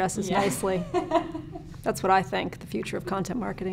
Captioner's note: laughing